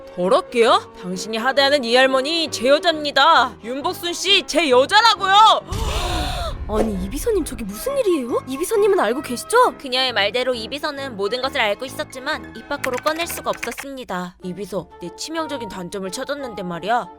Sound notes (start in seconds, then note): 5.8 gasp